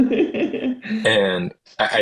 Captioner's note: laughs